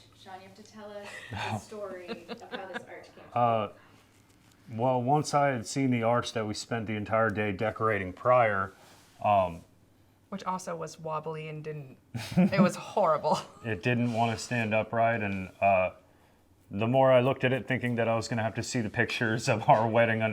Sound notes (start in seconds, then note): 4.1 laughs